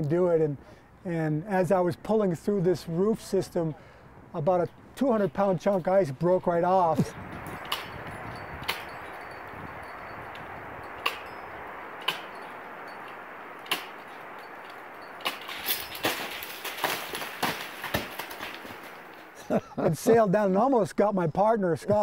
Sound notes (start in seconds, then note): 7.4 clanking; 15.8 crash